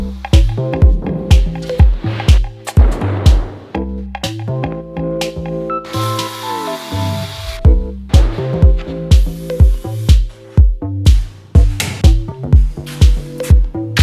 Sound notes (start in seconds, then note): 2.8 wood thuds; 6.1 saw whirs